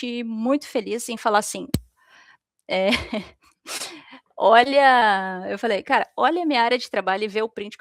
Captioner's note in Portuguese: risadas